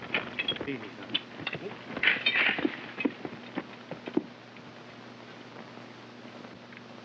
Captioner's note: hooves clopping